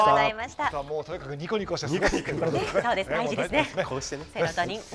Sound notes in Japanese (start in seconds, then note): 2.5 笑い